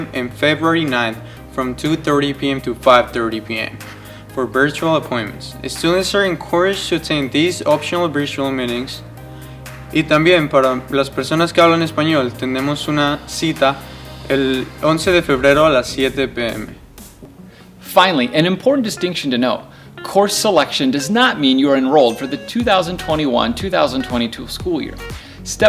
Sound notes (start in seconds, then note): 10.2 speaking in Spanish